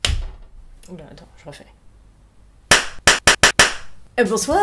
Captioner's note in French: Clap